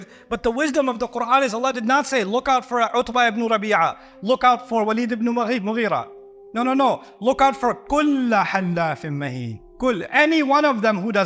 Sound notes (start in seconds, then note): 8.9 Arabic